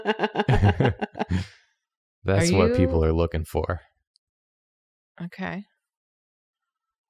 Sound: laughs

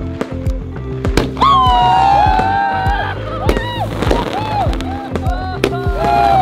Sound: crackling sound; shout with excitement

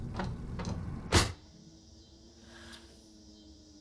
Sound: cicadas

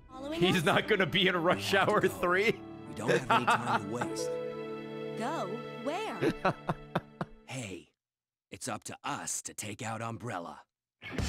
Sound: laughs

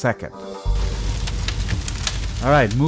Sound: fire burning

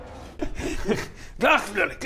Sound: reckless giggles

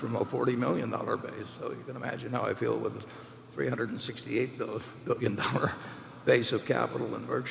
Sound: laughs

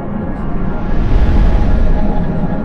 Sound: whoosh

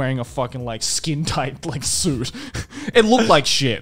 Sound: laughs

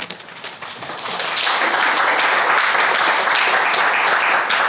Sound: crowd applauding

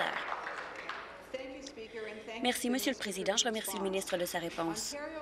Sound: applause

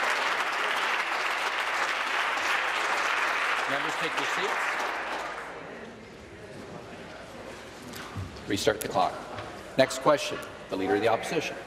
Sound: applause

